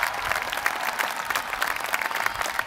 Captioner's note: applause